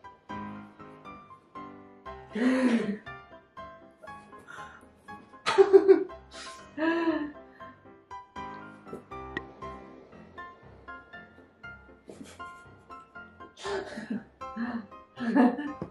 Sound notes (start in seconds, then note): 2.4 both laughing; 5.4 both laughing; 13.2 giggling; 15.1 both laugh